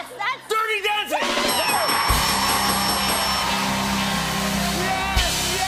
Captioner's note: cheers and applause